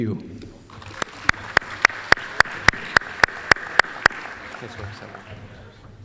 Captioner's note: applause